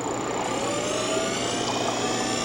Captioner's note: whirring sound